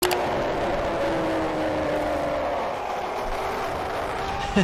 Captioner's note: soldier screams